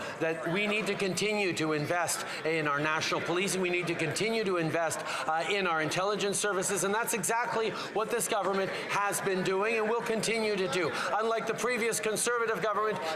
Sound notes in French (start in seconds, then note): 3.2 voix de l'interprète